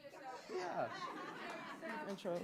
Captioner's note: audience laughing; audience applauding